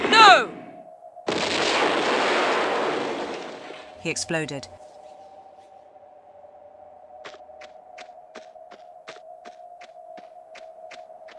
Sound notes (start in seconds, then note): 1.2 boom